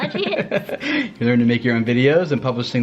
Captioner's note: laughing